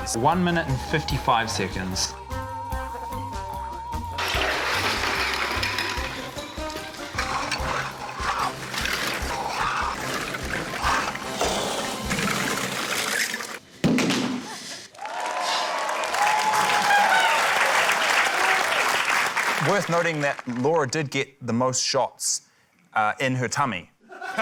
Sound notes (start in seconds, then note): 2.3 frantic music; 7.1 scotch, plastic sloshes; 13.8 thud!; 17.2 cheering, applause